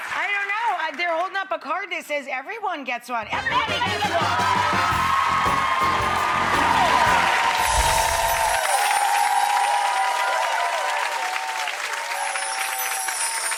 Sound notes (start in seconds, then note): 4.5 audience claps